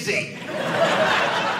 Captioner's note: audience laughing